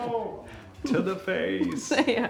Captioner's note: and crew members laugh